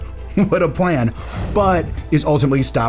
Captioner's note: chuckles